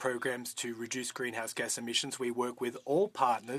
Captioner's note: speaking French